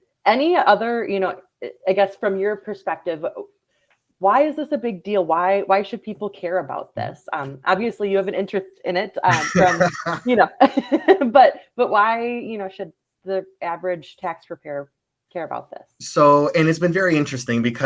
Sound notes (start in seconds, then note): 9.2 laughs